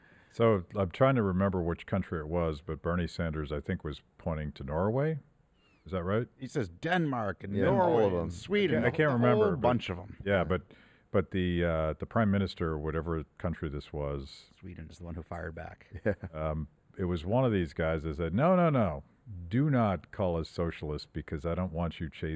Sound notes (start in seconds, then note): 15.9 chuckles